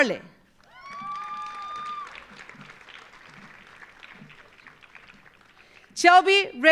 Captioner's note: audience applauding; audience cheering